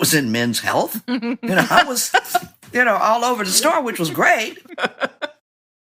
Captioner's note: laughter